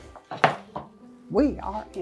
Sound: light piano music; tray sounds

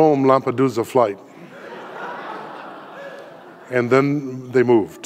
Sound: audience laughing

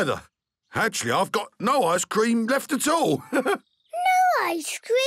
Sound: chuckles

